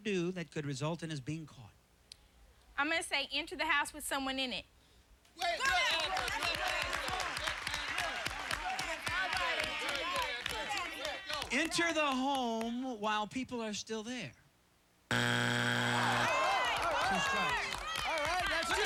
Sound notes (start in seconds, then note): 5.4 cheers